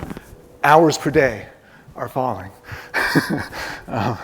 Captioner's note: laughs